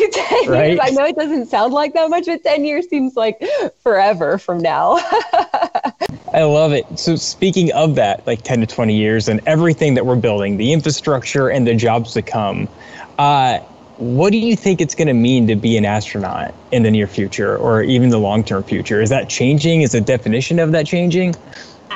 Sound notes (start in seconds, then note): 5.0 laughs